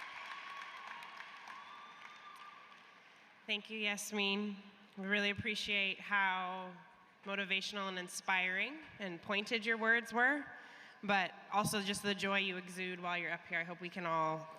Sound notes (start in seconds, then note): 4.2 cheers and applause